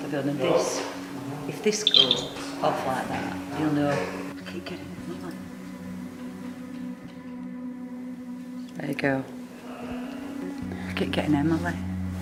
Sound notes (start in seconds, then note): 1.7 beeping; 5.7 ambient music